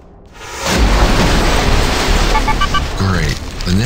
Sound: explosion

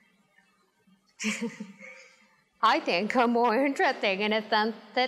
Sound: laughs

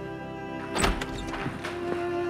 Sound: doors opening

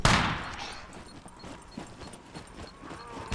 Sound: exploder Beeping

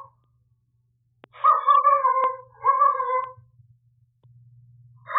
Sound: dog barking sounds

